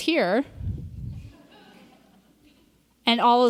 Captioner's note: audience laughs